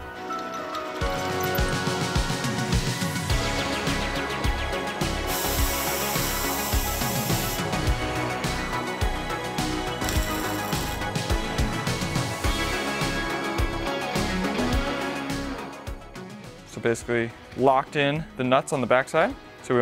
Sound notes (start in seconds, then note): 0.2 drill squeaking; 0.2 upbeat instrumental music; 5.2 air gun hissing; 5.3 upbeat instrumental music